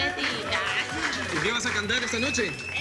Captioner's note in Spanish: Aplausos